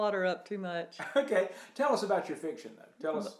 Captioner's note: laughs